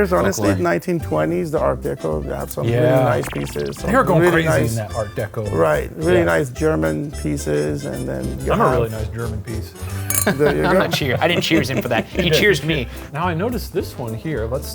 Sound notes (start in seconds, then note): 10.0 glass clinks